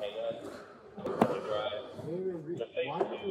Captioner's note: radio chatter; radio chatter